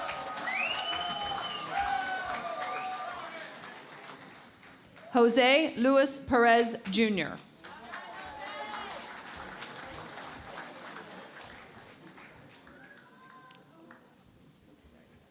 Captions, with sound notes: [ Cheering and Applause ] Jose Luis Perez, Junior. [ Applause ]